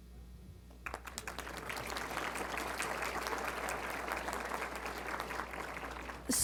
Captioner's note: applause